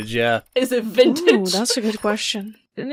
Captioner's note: laughs